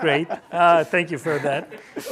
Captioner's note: laughter